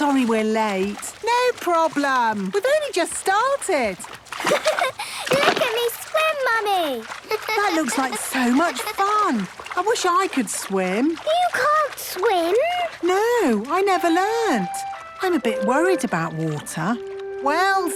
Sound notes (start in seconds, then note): 4.4 giggles